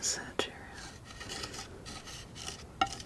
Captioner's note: tapping